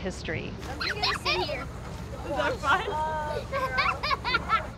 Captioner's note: kids laughing